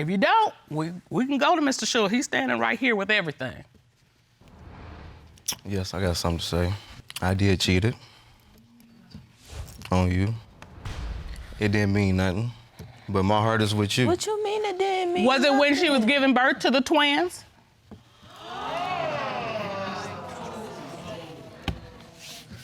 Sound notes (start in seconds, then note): 18.2 audience gasping